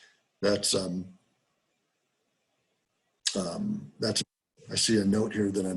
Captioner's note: break in audio